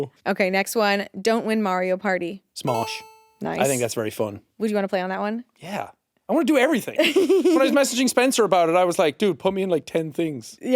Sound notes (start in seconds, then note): 7.0 giggling